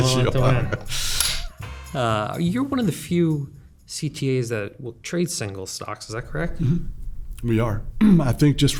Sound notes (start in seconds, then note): 0.6 laughter